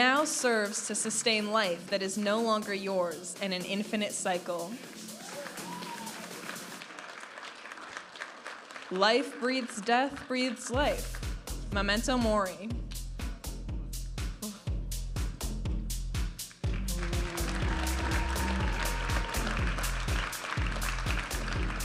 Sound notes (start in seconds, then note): 5.1 audience applauding and cheering; 13.7 vibrant music; 16.6 audience applauding and cheering